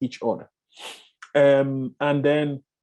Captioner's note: breath in heavily